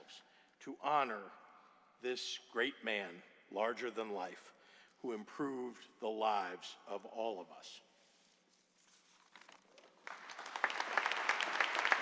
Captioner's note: applause